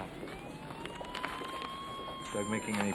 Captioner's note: sirens wailing